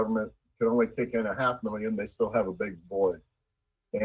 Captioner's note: ~audio distortion~